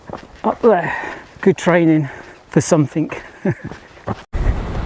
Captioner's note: laughs